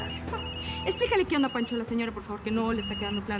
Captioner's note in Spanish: Suena el celular